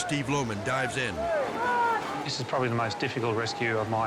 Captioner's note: rescuers yelling